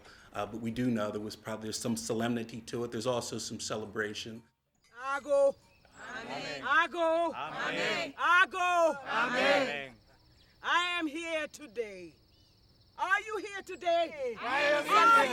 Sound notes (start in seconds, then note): 5.0 call and response in African dialect; 13.0 group calls out